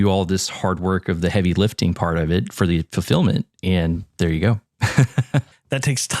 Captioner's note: laugh